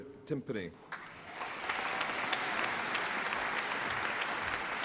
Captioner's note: applause